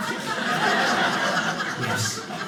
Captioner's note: audience laughing